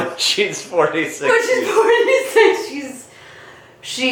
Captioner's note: laughing